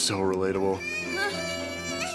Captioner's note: baby cries